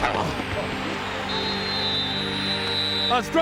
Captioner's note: whistle blows